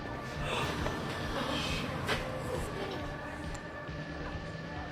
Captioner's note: crowd gasps